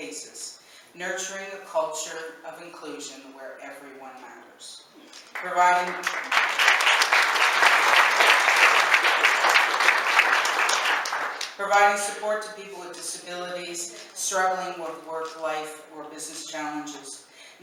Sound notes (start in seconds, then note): 5.1 applause